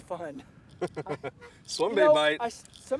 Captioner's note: laughter